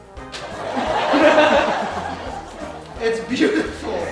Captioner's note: audience laughing